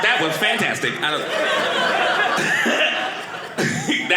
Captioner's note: audience laughing